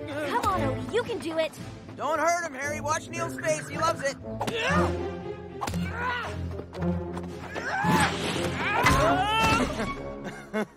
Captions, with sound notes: Come on Odie! You can do it. Don't hurt 'em! Watch Neil's face, he loves it. (Yelling)